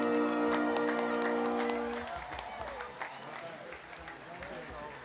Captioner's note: audience applauding